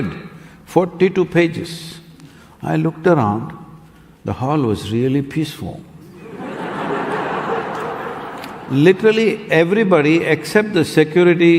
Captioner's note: laughter